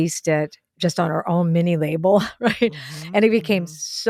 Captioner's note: laughs